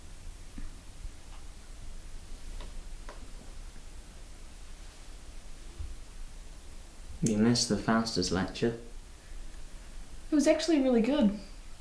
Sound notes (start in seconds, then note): none